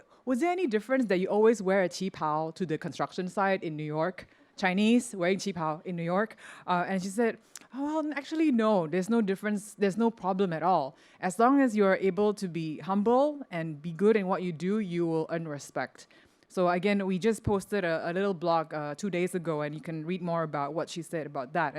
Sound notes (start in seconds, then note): none